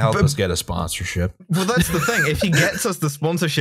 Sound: laughter

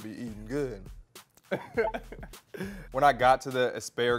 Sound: both laughing

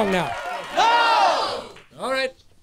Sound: crowd

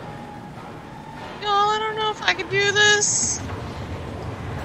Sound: shrill

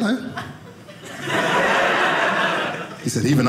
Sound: audience laughing

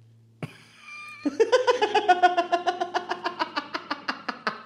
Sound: delerious Laughter

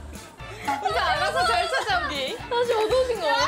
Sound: bursts out laughing

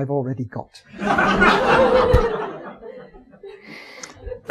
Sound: audience laughing

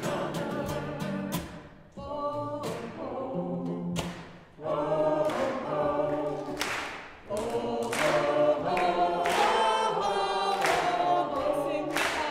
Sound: people clap and sing along

